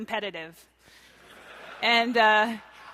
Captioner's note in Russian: смеются